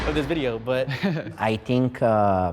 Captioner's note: chuckles